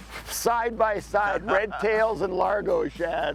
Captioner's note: laughing